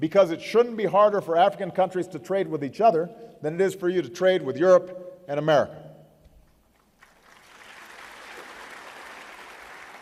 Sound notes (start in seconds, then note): 6.8 applause